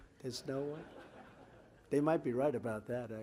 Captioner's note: laughter